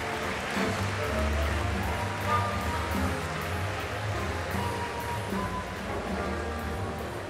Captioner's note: applause